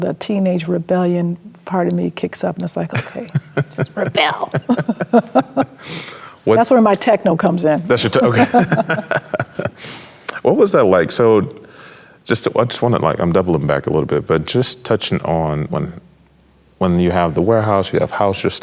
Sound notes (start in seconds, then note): 2.9 chuckles; 8.0 laughs